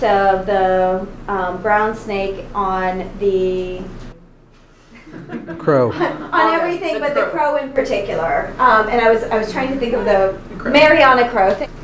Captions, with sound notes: of the ground snake on the... (everyone laughs) - Crow. - On everything but the crow in particular. And I was trying to think of the Mariana crow.